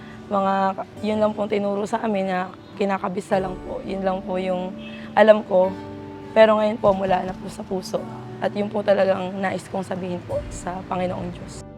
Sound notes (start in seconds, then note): none